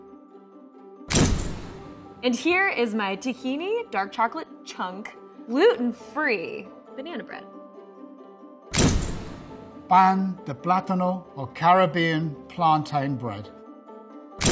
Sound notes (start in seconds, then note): 0.2 pleasant music; 1.1 dramatic crash; 7.7 pleasant music; 8.7 dramatic crash